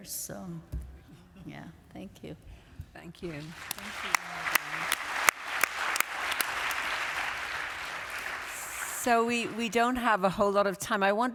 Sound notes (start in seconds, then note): 3.2 applause